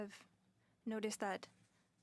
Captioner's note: speaking in French